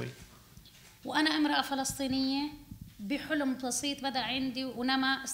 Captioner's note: speaking arabic